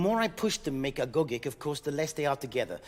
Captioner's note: speaking in French